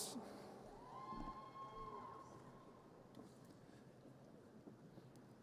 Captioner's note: audience cheers